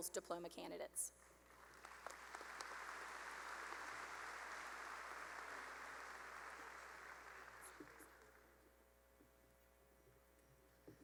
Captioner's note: applause